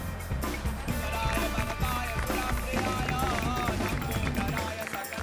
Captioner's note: speaking in foreign language